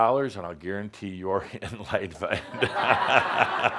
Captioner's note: laughter